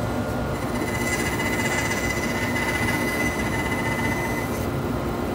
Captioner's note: machine whirring